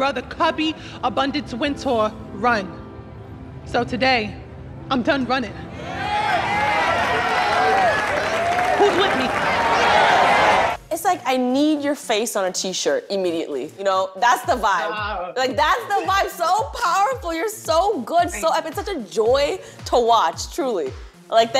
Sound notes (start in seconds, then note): 5.8 cheers and applause; 10.2 cheering